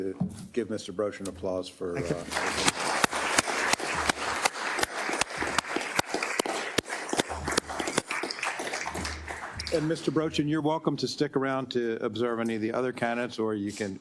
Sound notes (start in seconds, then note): 5.8 applause